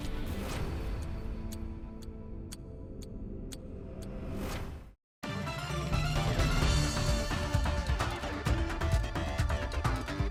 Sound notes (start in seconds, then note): 0.1 upbeat music; 2.7 clock ticking; 5.2 upbeat music